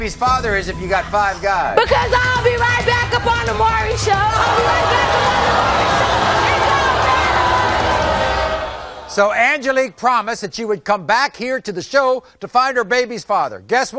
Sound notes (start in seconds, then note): 4.1 audience booing; 4.3 screaming